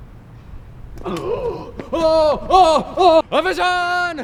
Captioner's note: gasps